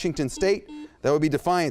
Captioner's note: beep